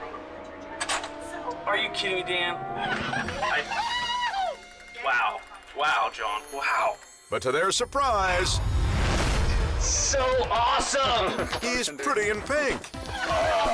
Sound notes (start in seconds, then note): 0.7 door clicks; 2.6 coworkers laugh